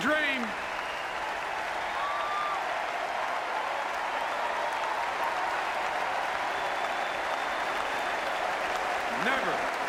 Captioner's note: applause